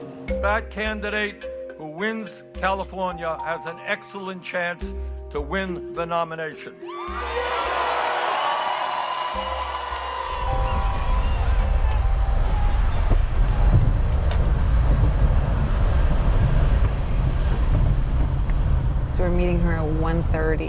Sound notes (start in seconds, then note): 3.7 cheering